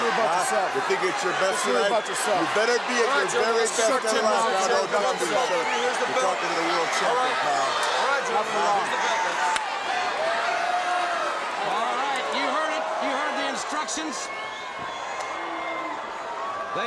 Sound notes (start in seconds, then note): 8.9 crowd cheering